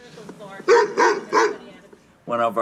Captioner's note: dog barks